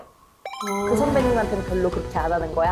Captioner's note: advanced-version sound effect